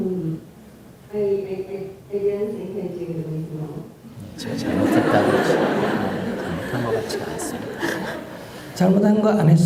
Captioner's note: audience Laughter